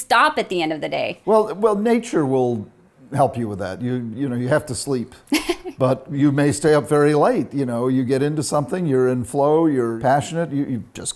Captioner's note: laughs